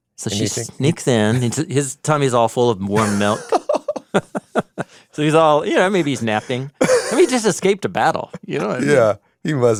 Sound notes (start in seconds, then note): 2.9 both laugh